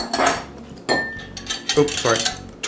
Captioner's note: metal clanking